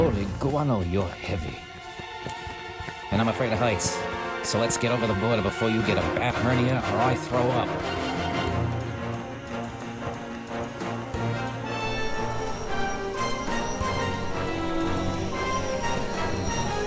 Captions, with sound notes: Holy guano, you're heavy. - And I'm afraid of heights, so let's get over the border before you get a bat hernia or I throw up. (dramatic music) (drone whirring)